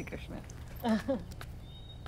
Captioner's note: Padimini laughs